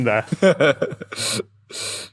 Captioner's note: chuckles